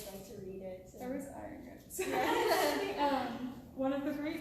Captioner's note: laughter